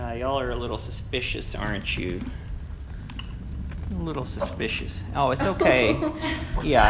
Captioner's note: Teddy barks, everyone laughs